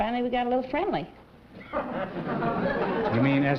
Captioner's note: laughter